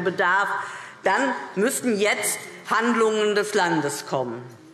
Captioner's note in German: none